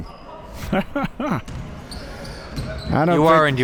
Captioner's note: laughing